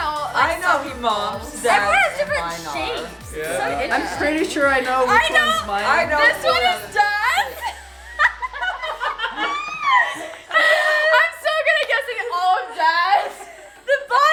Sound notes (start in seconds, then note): 8.3 girls laughing